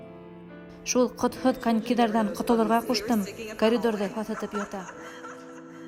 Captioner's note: echo; derisive laughter